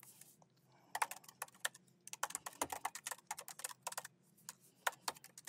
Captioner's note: keyboard clacking